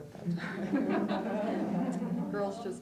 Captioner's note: laughter